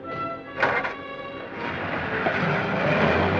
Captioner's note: starts engine